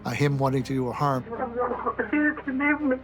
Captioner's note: sobbing